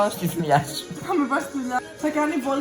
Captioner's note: giggles